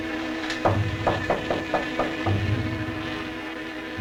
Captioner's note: knocking